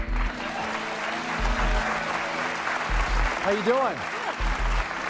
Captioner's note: cheers and applause